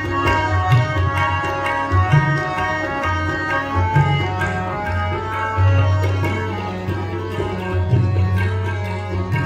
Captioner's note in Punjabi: ਤਾੜੀਆਂ